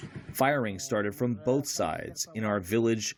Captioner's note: through translator